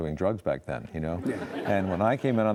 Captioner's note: audience laughs